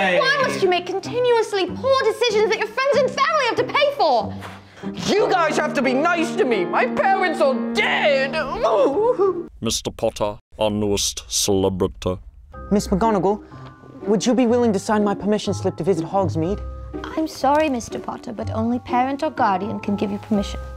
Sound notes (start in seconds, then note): 4.2 scoffs; 6.7 sad music; 8.5 sad English whimper